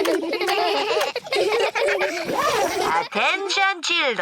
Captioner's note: both giggle; all giggling